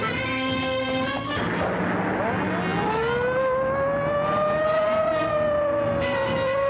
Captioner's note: car engine revving; siren wailing